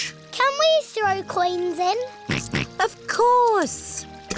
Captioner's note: snorts